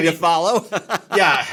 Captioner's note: laughs